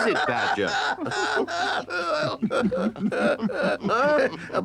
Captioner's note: Badger laughs